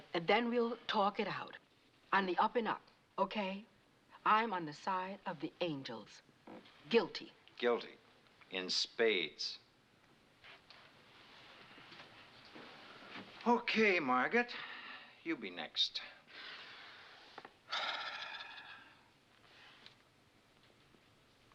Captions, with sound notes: and then we'll talk it out on the up-and-up, okay? Guil[ Sighs ]ades.